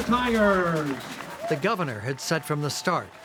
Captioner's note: crowd cheering